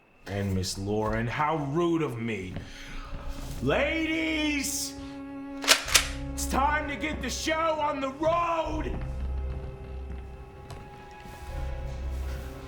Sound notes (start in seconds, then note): 5.6 shotgun clicks; 9.6 suspenseful music